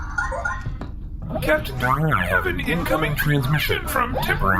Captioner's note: communicator chimes